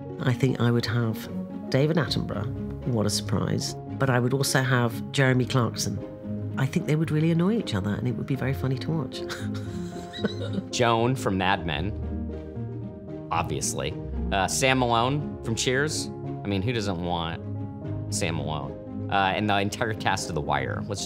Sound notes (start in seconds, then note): 9.4 laughs